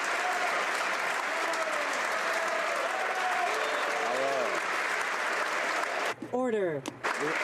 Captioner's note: applause